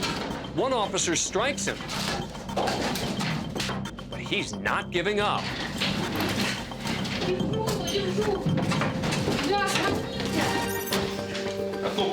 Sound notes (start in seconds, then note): 6.8 speaking Russian